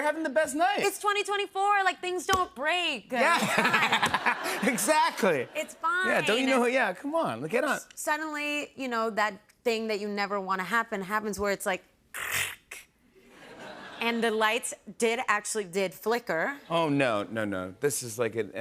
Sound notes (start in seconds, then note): 3.2 laughter